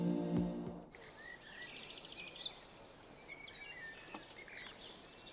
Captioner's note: birds chirping